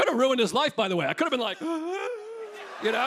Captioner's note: gasping